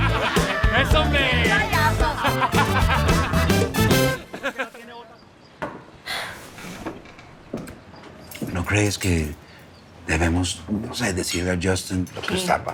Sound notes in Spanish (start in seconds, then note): 1.8 Risas